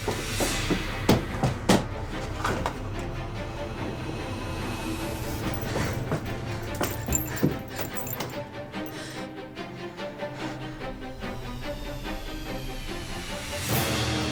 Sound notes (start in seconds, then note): 0.0 banging; 3.5 dramatic music; 7.6 chains rattling; 11.5 dramatic music